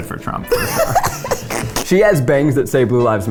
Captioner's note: laughs